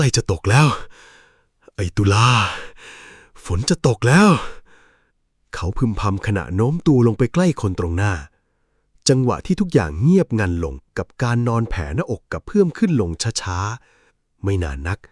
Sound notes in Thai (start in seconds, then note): 2.0 เสียงถอนหายใจ